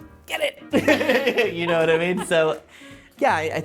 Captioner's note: laughs